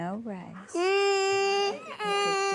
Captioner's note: crying